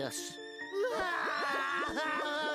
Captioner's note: both crying